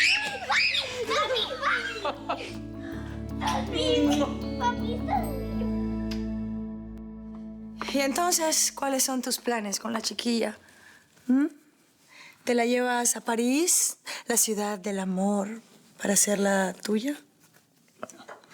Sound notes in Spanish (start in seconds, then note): 2.2 Gritos